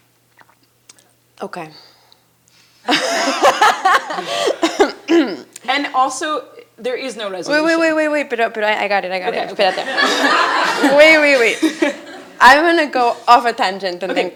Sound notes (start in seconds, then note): 2.9 laughs; 9.3 audience laughing